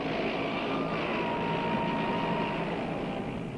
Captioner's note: tanks rumbling